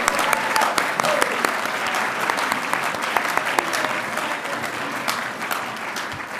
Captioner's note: audience cheering and applauding